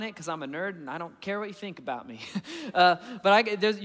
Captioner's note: chuckling